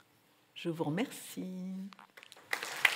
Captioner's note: applause